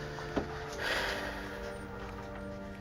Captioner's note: sigh